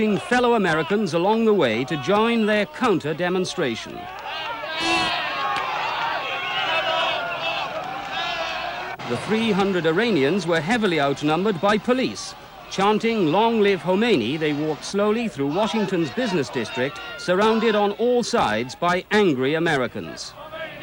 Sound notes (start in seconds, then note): 5.3 تشویق حضار